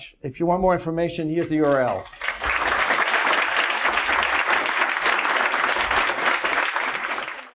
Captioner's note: clapping